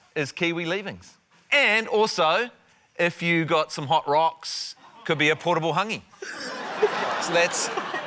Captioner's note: laughter